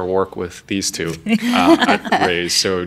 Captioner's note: laughing